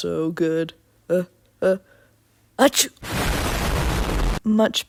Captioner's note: explosion sound effect